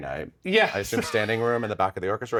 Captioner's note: laughs